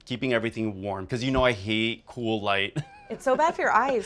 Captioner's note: laughs